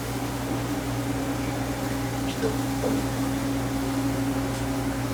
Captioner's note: appliances humming